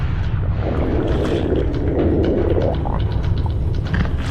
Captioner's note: loud defecating